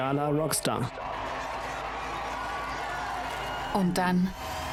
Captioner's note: people cheering